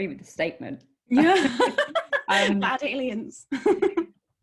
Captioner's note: laughing